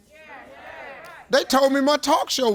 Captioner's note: audience agreeing